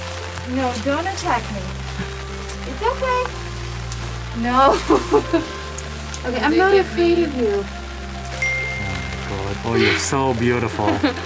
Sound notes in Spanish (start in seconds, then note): 3.7 Hiss; 4.7 Risas; 5.6 Hiss; 8.4 Ding; 10.6 Risas